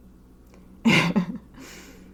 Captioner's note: laughter